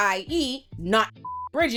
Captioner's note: beep